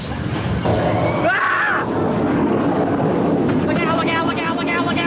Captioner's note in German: schreit